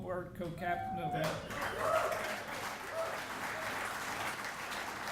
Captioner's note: audience cheering